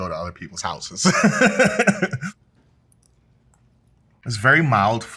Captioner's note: participant Laughs